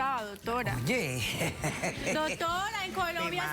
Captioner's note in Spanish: risas